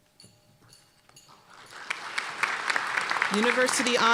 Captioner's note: applause